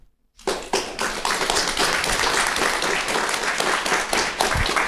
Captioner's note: audience applauding